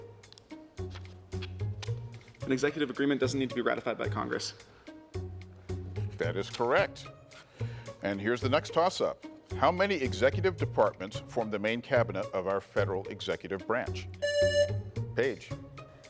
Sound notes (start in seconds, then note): 0.1 pensive music; 6.0 pensive music continues; 14.2 buzzer rings